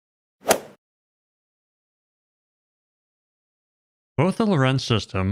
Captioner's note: golf ball hit sound effect